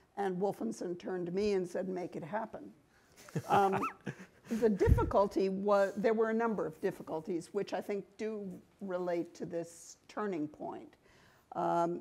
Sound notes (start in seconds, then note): 3.2 group laughing